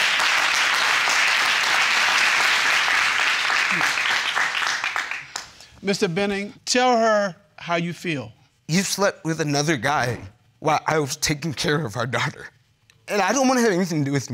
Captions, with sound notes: Period. (AUDIENCE APPLAUDING) Mr. Benning, tell her how you feel. You've slept with another guy while I was taking care of our daughter.